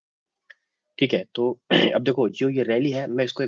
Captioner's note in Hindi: गला साफ़ करने की आवाज़